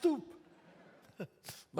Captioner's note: audience laughs